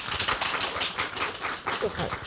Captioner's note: applause